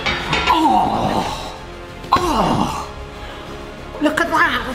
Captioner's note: tray banging; person gasping